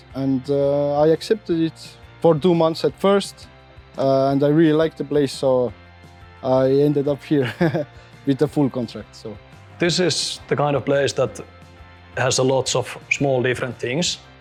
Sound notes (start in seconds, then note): 7.4 chuckles